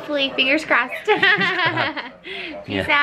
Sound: laughing

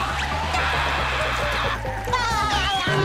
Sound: screaming

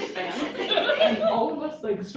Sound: laughter

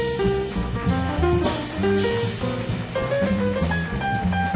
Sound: audience applauding

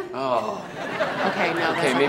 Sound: audience laughs

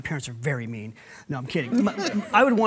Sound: laughs

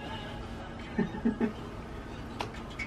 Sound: giggles

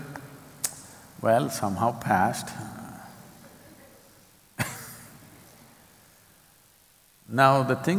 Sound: laughs

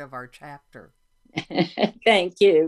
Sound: chuckles

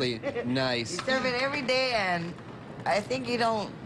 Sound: laughter

